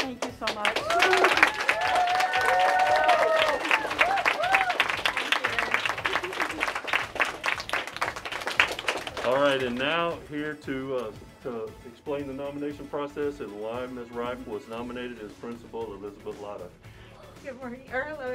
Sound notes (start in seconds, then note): 2.3 applause